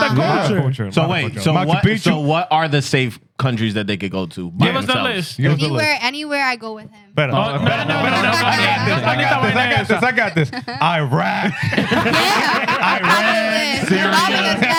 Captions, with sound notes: So wait, so what are the safe countries that they could go to by themselves? Anywhere, anywhere I go with him. (Speaking In Foreign Language) Iraq. (Laughing) Iraq.